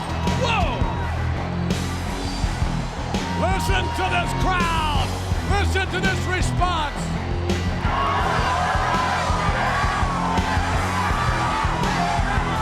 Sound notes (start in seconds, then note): 1.3 upbeat rock music; 7.9 crowd cheering